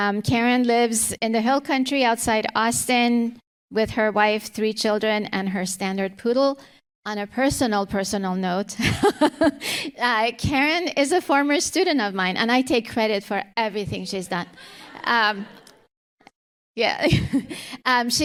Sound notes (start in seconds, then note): 9.3 laughs; 14.5 audience laughter